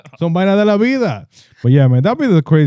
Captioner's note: speaking In Foreign Language